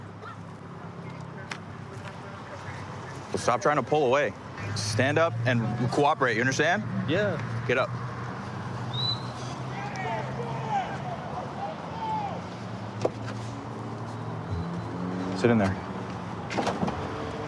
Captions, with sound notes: Well, stop trying to pull away. Stand up and cooperate. You understand? Yeah. Get up. [whistle] [indistinct shouting] [vehicles driving] Sit in there.